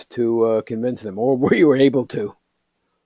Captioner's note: laugh